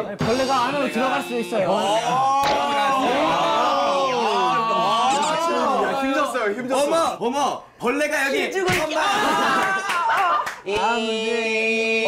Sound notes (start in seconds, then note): 8.6 slap!